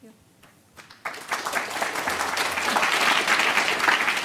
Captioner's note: applause